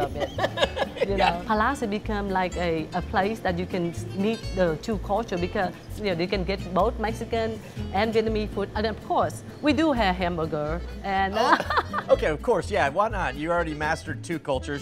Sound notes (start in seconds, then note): 0.1 host laughs; 11.3 laughs